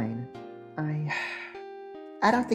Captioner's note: sigh